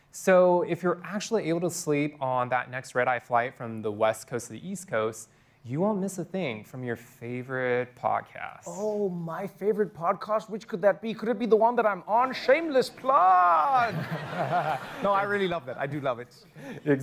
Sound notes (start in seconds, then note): 13.7 laughter